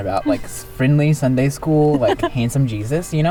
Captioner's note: laughs